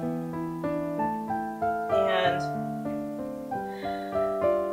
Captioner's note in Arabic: التنفس